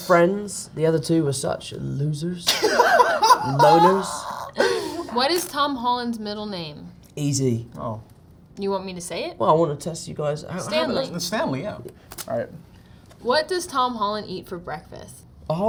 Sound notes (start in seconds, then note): 2.5 Zendaya and Jacob laugh